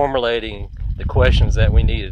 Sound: wind blowing

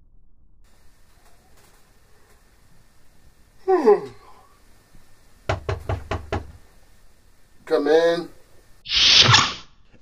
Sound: wakes up, hears a knock on his bedroom door

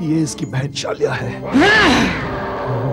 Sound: grunting

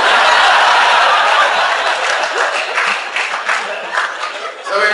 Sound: class laughs

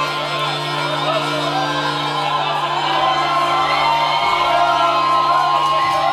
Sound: cheering

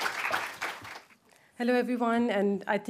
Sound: audience applauding

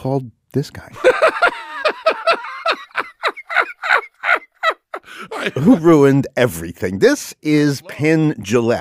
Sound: laughs

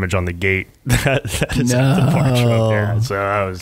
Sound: laughing

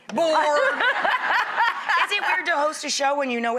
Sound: audience laughter

